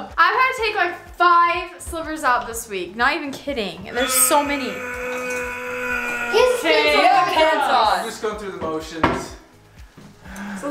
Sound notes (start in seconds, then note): 3.9 grunting